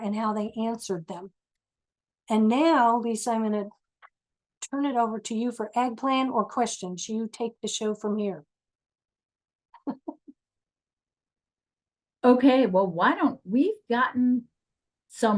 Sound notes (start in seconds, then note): 9.8 chuckles